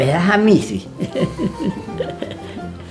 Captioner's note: laughter